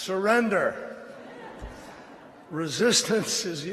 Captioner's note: laughter